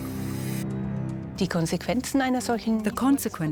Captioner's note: in German; dubbed in English